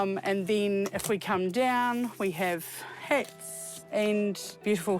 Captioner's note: none